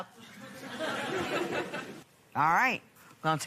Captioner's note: laughter